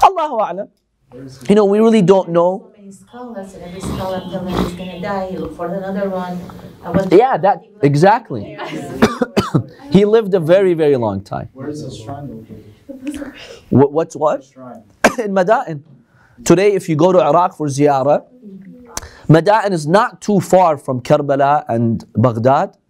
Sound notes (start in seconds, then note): 0.2 Arabic